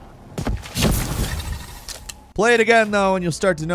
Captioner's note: thudding